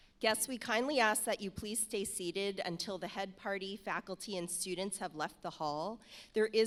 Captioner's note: none